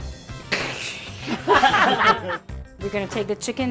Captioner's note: laughing